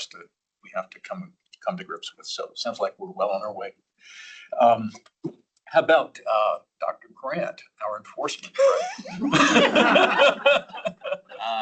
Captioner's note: laughter